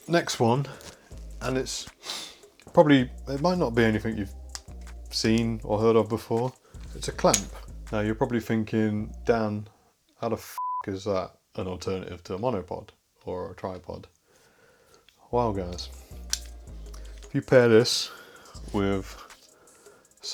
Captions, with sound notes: Next one, and it might not be anything you've seen or heard of before, it's a clamp. Now you're probably thinking Dan, how the (beep) is that an alternative to a monopod or a tripod? Well guys, you pair this with something like this,